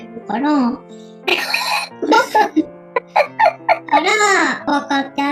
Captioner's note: laughs